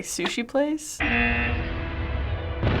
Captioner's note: buzzer